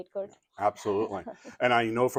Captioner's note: chuckles